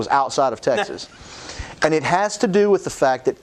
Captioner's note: laughing